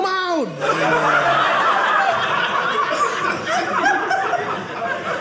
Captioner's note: audience laughing